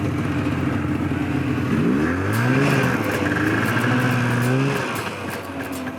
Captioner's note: snowmobile engine growling